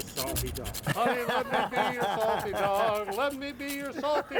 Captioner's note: laughter